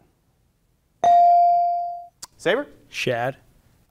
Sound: bell ringing

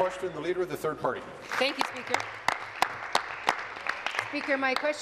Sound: applause

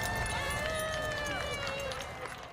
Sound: NATS- claps

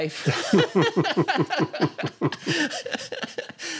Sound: laughter

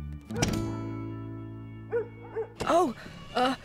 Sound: dog Barking

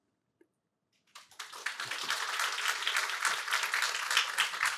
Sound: applause

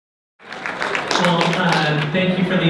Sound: applause

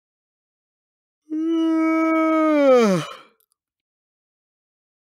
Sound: sound of yawning

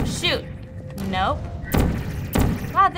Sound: gun zaps

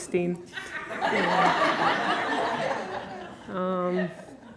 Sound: audience laughter

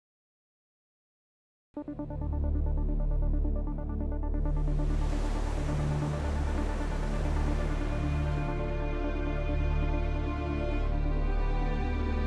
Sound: wave sounds

